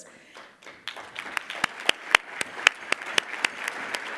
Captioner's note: audience applauding